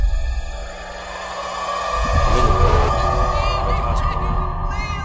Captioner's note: siren wails